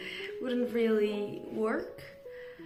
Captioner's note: in English